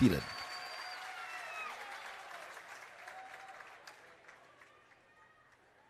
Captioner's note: applause